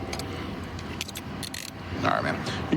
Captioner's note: handcuff closing